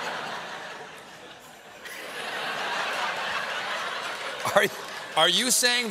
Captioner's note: laughter